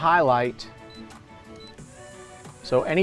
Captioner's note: touchscreen beeping